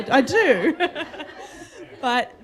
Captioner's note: laughter